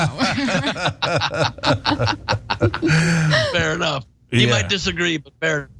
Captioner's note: laugh